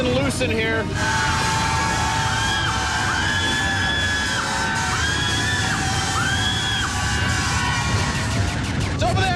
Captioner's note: screaming continues